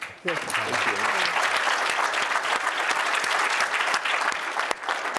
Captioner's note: applause